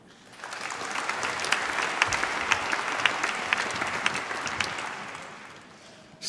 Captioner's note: applause